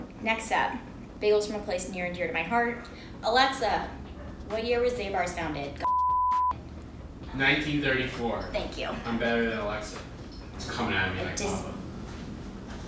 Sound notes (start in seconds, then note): 5.8 beep